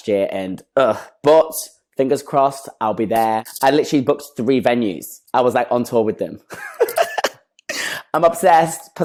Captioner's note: laughs